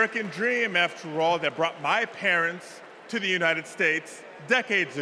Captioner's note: applause